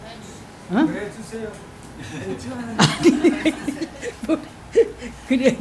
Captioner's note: laughter